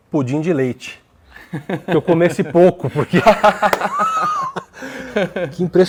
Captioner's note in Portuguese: risos